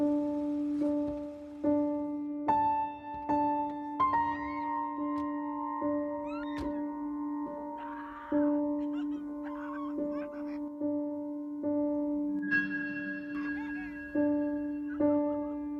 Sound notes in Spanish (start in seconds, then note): 7.6 Gritos